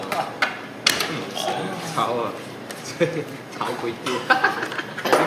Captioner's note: gang chit chatting